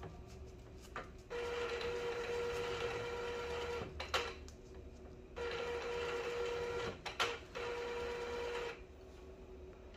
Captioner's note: printer machine sound